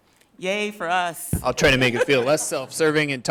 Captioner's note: people laughing